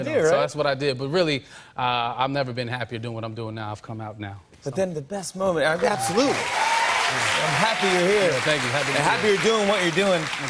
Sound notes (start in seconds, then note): 5.8 cheers and applause